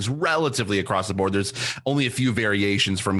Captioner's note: none